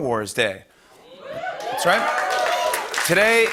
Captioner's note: cheering and applause